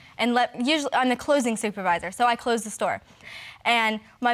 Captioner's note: stammering